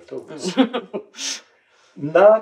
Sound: chuckles

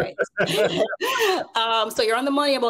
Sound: both laugh

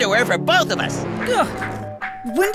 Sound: doorbell continues ringing

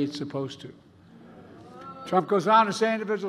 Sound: participants groaning

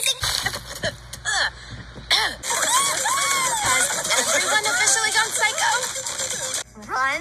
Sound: cheering

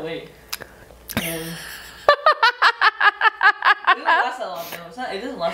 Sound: laughs

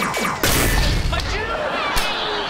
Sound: bang

